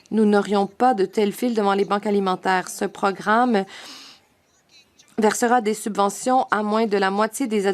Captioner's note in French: voix de l'interprète